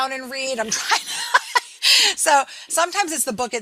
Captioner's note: laughing